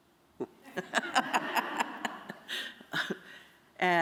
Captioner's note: laughter